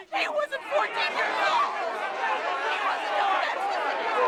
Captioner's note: crowd shouting